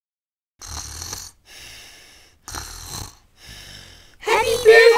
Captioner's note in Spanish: ronquidos